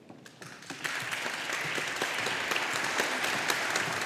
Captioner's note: audience applauding